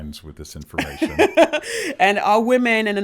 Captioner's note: laughs